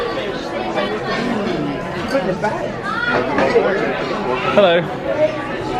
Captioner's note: guests chattering loudly